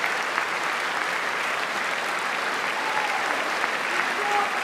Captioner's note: applause